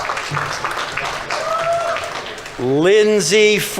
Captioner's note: audience members cheering; audience applauding